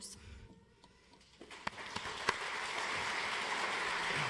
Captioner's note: audience applauds